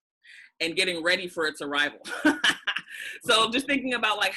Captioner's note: laughs